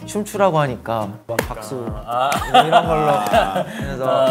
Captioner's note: basic clapping